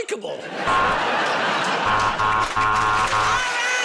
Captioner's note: buzzer